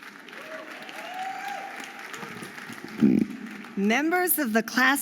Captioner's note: audience applauding and cheering